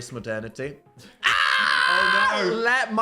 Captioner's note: Dan screaming